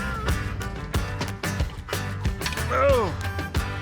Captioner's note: grunts